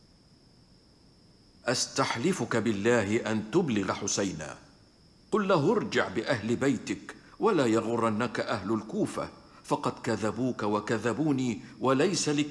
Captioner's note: speaking arabic